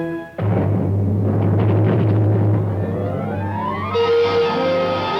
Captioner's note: thunder rumbling; uplifting orchestral music